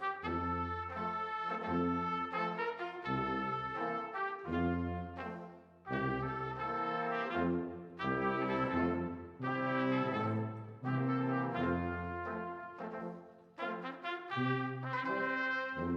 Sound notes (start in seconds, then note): none